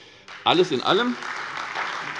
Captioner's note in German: Beifall